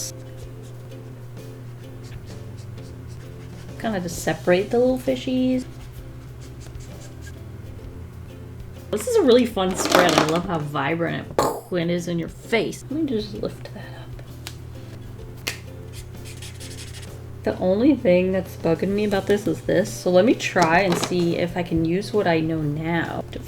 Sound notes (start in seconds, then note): 11.3 pow!